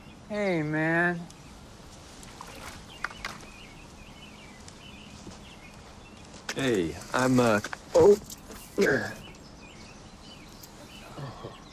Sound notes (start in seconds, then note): 0.0 birds chirping; 3.0 skimmer thudding; 8.8 Terrence sighing